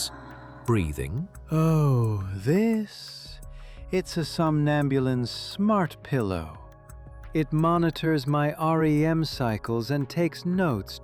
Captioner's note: affectionately